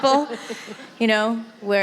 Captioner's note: laughter